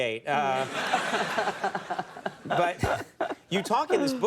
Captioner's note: audience laughing